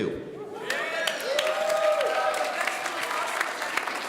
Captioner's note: audience cheering